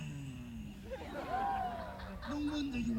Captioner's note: audience laughs, cheers